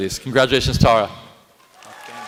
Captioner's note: applause